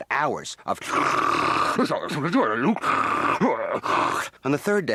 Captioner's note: distorted